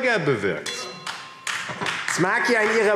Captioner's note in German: Beifall AfD